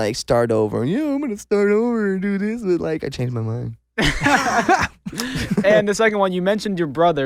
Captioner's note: laughs